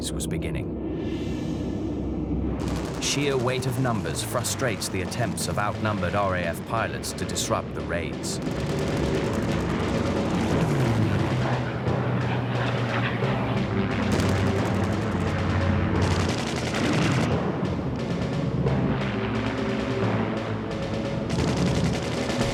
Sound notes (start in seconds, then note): 8.8 dramatic music; 8.8 plane engines roaring